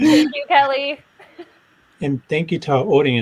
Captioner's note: laughs